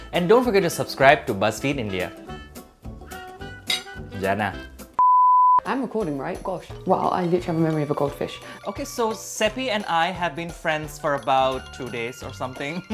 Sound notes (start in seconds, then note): 2.7 buoyant jazz music; 5.0 beep